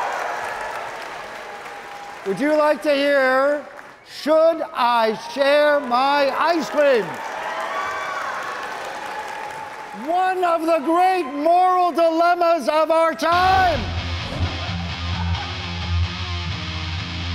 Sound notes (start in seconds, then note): 0.0 audience cheering; 4.7 audience cheering; 13.4 exciting rock music